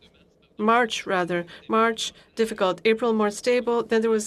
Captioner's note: speaking in alternate language